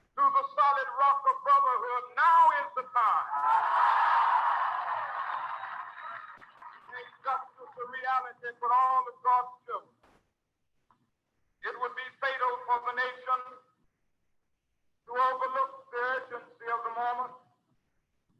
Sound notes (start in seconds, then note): 3.3 audience applauding